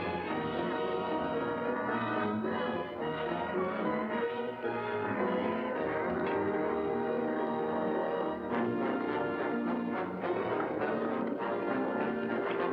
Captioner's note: tense music; cattle mooing; tense music